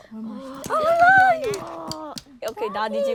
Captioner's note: children clamoring